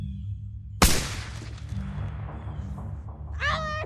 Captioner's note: gun bangs